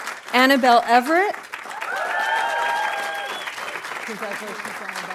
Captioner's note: audience applauding